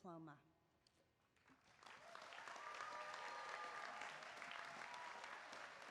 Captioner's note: applause